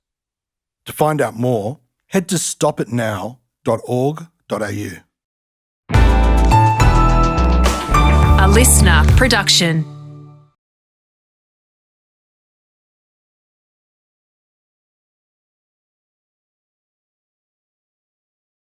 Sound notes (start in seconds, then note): 7.9 female voice